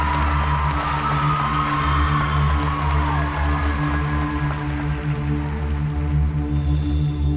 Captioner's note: applause